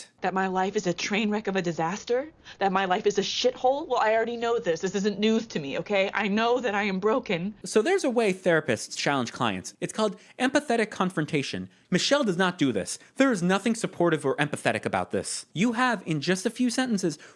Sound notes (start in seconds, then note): 6.1 voice breaking